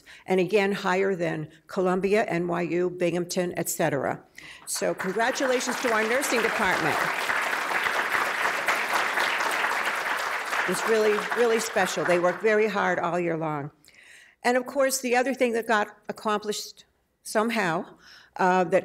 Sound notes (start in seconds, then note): 6.9 audience applause